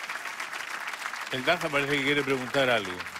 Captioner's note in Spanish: Aplausos